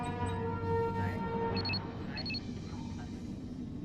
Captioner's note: beeping